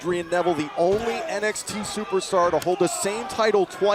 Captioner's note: crowd chatter